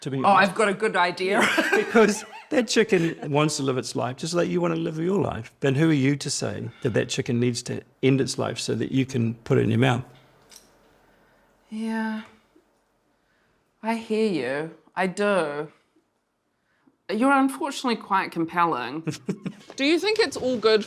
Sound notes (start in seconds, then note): 1.3 laughs; 19.1 laughs